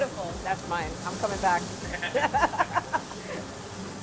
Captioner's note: laughs